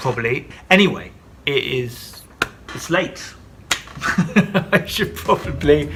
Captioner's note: laughs; lively music